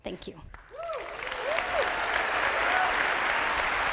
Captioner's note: applause